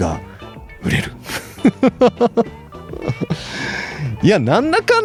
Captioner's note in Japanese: 笑い